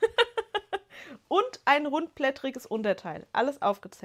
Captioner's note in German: gelächter